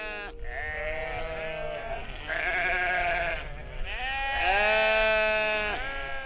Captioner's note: sheep bleating